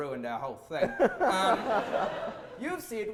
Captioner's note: audience laughter